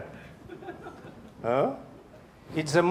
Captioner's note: audience member laughing